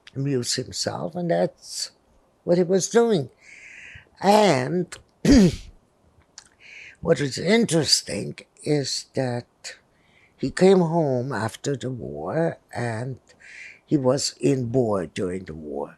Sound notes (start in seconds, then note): 5.2 clears throat